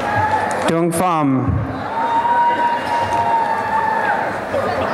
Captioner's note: applause and cheering